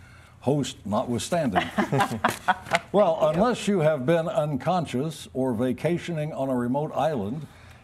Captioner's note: laughter